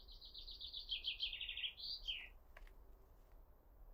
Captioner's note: birds chirping